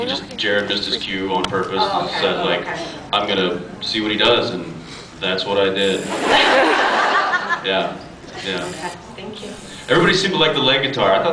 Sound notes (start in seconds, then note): 6.1 laughs